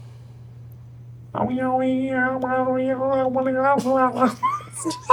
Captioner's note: hums words